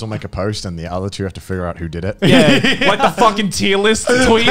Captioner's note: laughing